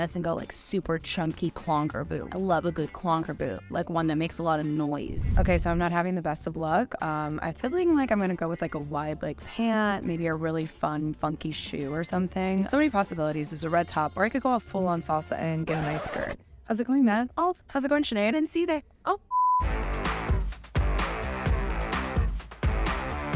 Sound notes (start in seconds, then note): 15.6 record scratching; 19.3 TV beeps; 19.4 upbeat music